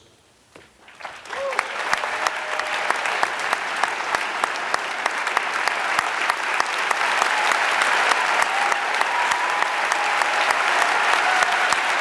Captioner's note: applause